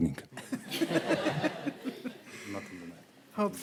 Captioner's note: laughter